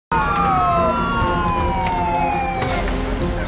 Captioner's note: sirens wailing